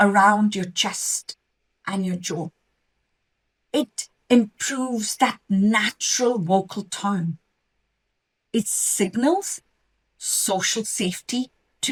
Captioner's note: natural vocal tone